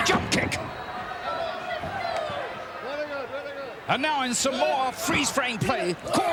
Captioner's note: applause